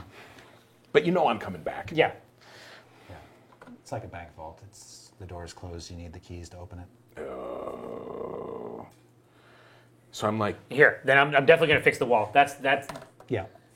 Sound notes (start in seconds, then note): 7.1 groaning